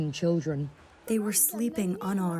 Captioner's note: through translator